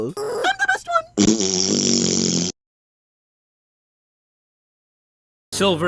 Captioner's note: fart noise!!!!!!